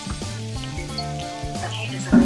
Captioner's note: electronic beep